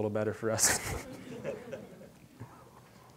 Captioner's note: all chuckling